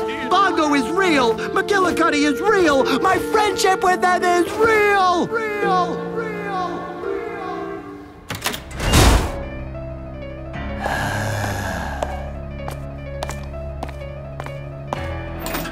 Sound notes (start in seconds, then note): 5.2 echoing